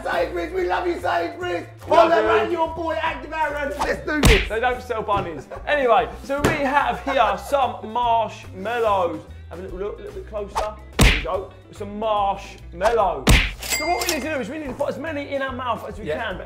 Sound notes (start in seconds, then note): 4.0 throwing noise; 11.0 hitting noise; 13.2 hitting noise; 13.6 cha ching